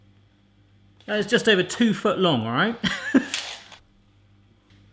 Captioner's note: laughs